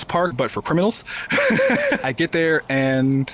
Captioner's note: laughter